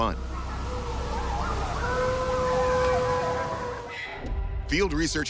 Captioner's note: wolves howling